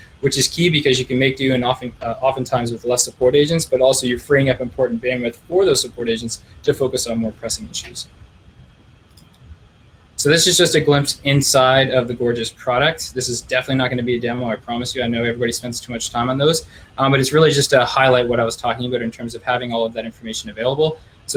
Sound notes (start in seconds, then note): 9.0 clicking